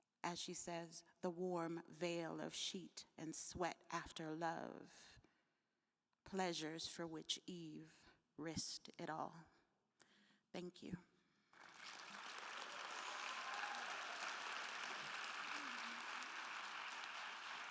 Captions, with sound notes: "As she says, 'the warm veil of sheet and sweat after love, "'pleasures for which Eve risked it all.' Thank you (attendees applauding and cheering)